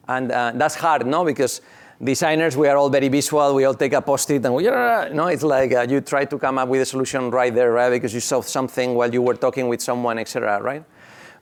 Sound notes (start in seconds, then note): 4.6 groan